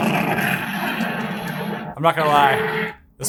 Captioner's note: Stormbreaker roaring continuously